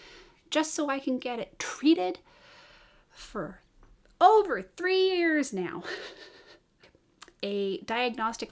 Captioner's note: boggled chuckle